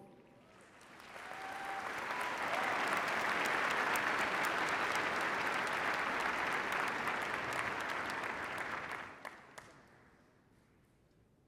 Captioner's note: applause